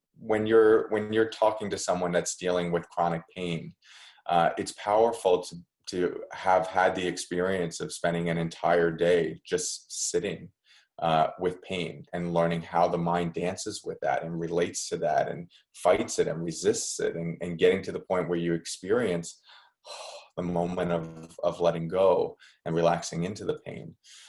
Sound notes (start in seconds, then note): 19.4 exhale